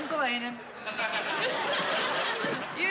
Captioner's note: laughter